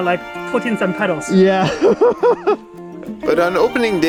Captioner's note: laughs